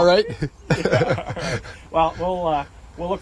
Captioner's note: laughter